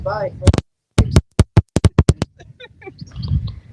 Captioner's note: laughter